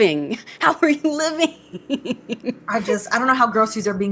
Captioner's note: laughs